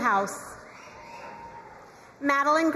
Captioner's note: crowd cheering and applauding